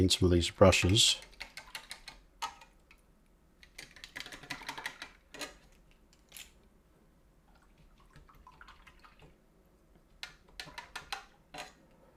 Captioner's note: silence